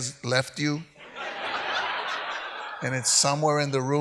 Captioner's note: audience laughs